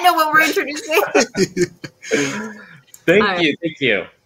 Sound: all laughing

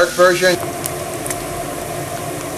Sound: sizzling

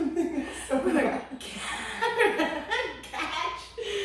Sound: laughter

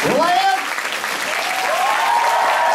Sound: cheering

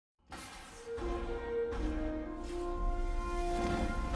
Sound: fireworks crackling as dramatic music starts playing

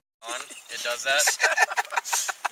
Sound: laughing

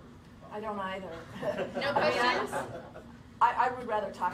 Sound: laughter

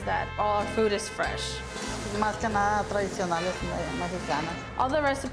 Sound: speaking Spanish

